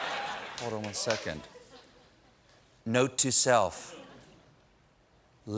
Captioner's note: laughter